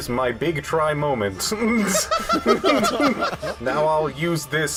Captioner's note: laughter